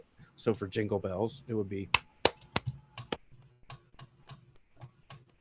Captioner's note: hands clapping